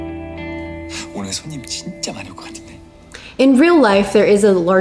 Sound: light dramatic music; speaking in foreign language

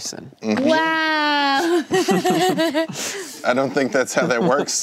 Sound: laughing

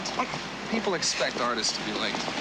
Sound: sighs

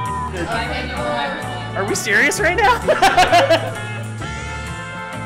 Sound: laughing

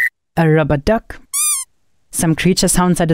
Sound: rubber duck squeals

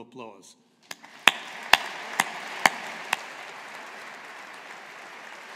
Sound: audience applauding

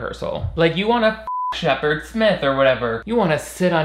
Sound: beep

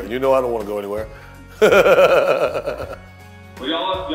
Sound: laughs

